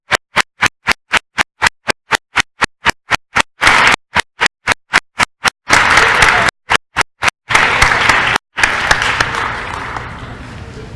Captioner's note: applause & cheering